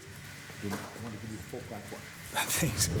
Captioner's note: speaks faintly